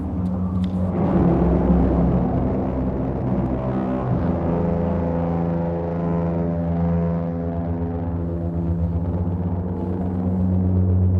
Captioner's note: loud distorted horns, wind